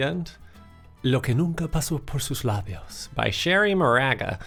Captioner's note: speaking in foreign language